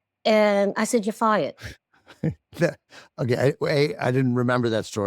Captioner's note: chuckles